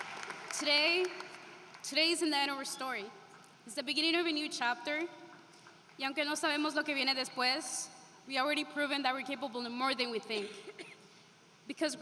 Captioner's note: applause